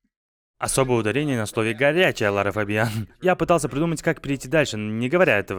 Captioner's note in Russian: откашливается